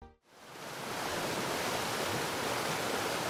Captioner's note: waterfall